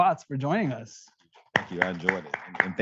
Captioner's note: audience applauding